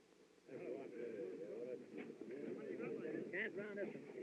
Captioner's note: chattering